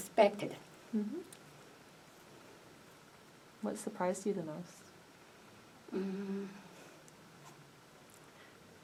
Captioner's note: tears up